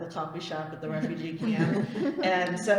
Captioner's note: laughter